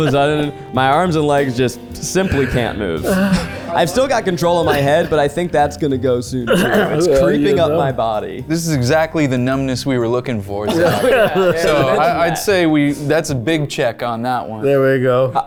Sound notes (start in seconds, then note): 10.6 group laughs